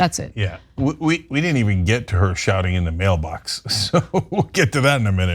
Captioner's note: laugh